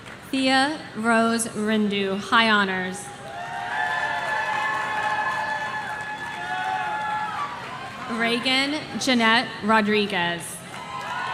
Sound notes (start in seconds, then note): 3.2 audience cheering